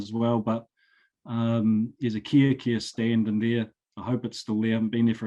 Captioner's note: speaking foreign language